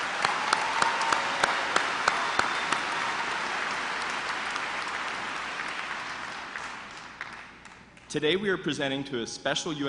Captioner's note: applause